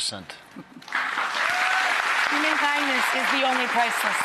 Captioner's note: applause